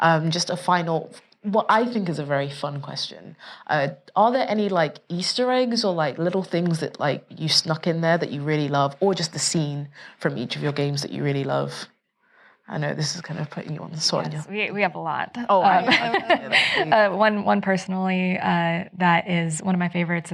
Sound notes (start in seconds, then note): 15.6 laughs